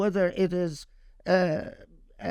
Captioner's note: speaking Arabic